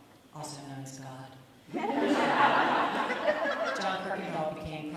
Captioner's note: audience laughs